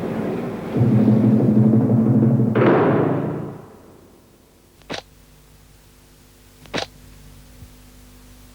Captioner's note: gate Slam